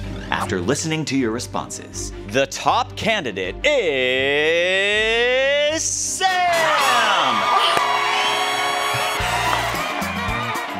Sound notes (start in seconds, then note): 6.3 cheers, applause